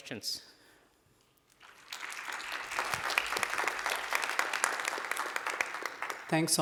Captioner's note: applause